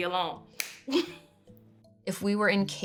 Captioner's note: clapping and chuckling